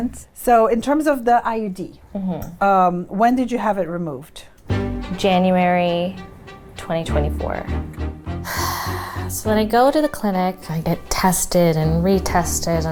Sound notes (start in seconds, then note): 8.4 sighing